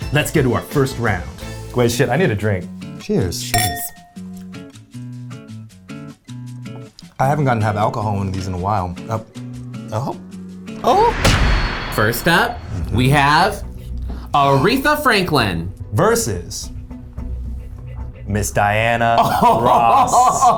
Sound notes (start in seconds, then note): 3.5 glasses clinking; 4.2 calming jazzy music; 10.8 metal door slamming